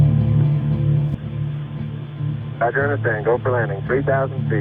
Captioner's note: voiceover